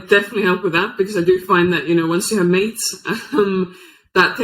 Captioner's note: chuckles